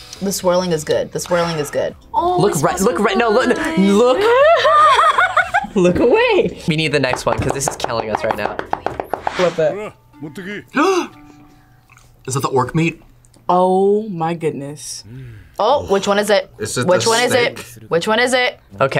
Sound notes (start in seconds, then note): 4.2 laughs; 10.7 gasps